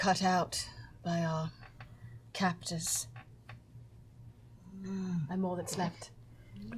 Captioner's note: none